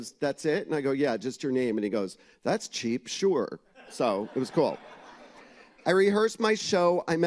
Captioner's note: laughter